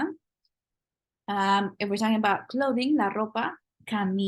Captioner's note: spanish